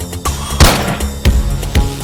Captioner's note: gunshot